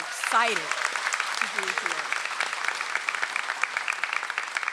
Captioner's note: audience applauds